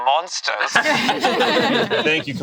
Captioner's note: group laughs